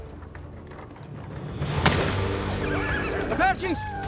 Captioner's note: gunshot